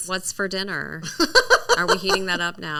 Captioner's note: laughing